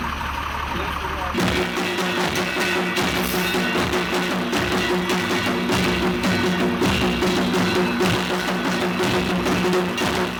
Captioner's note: intense drumming; metal clanking